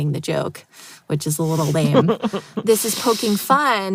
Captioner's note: laughs